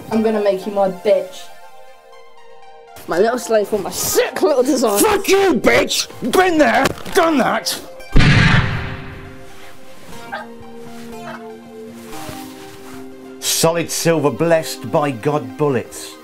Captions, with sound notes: I'm going to make you my bitch. My little slave for all my sick little desires. Fuck you bitch. Been there, done that. [Gun Shot] [Moaning] Solid silver blessed by God bullets.